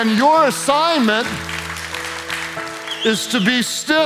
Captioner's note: congregation claps